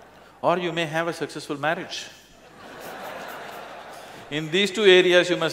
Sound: laughter; laughter

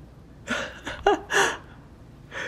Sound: laughing

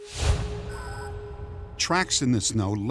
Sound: beeping

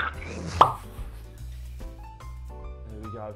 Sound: pop

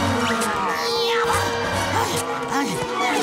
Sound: groaning

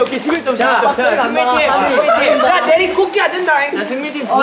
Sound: ruckus

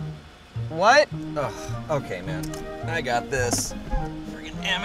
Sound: sigh

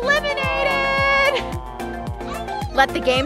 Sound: groan

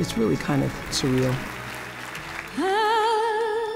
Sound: audience clapping

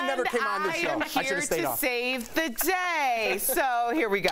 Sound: laughter

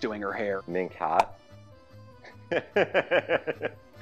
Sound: laughs

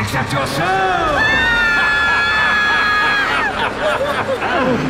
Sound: laughs maniacally; both scream

